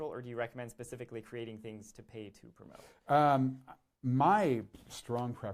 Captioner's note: none